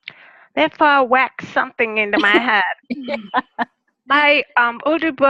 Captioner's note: laugh